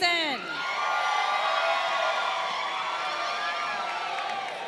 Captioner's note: crowd cheering